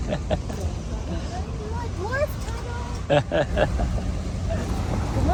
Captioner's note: laughter